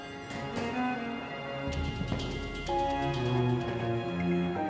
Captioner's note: door creaks in distance